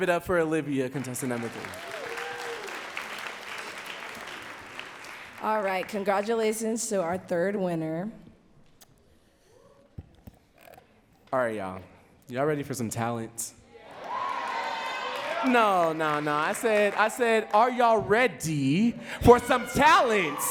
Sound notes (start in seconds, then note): 1.0 audience cheering and clapping; 13.8 audience says yes and cheers; 19.1 audience cheering and clapping